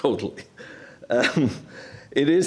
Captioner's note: laughter